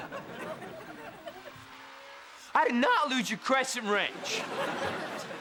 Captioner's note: voice cracks; stammers